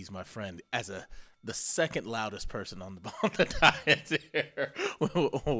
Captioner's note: laughs